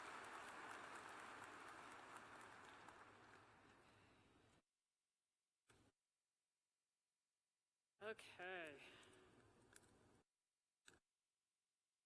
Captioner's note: applause